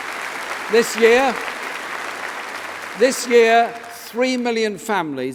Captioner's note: applause